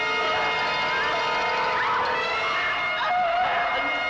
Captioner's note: screaming